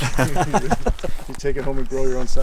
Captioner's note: laughing